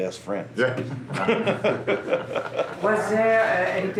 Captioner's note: laughs